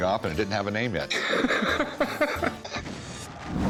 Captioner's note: laughs